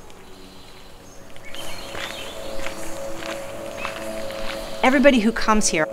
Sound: birds chirping

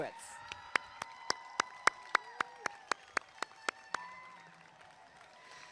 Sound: applause and cheering

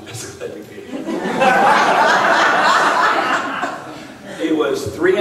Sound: laughing

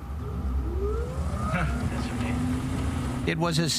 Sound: propeller hums

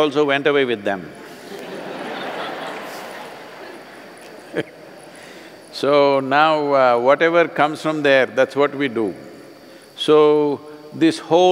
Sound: laughter

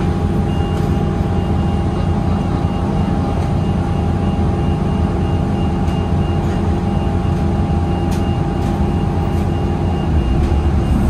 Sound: bus unkneels and closes its doors as it departs

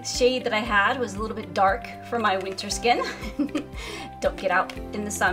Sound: giggles

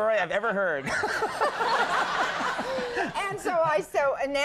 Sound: all laughing

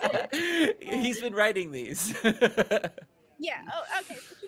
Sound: laughing; chuckling

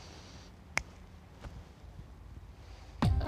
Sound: clicks fingers

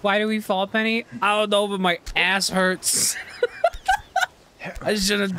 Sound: laughter

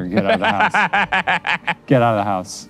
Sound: laughs

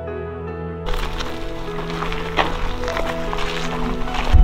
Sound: stones rustling

